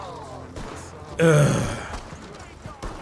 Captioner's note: sigh